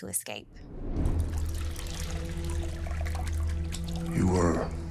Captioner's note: water sloshing